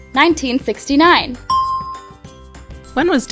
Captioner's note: bell rings